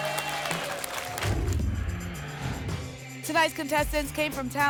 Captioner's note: whoosh